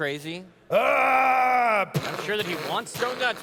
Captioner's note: stomping sounds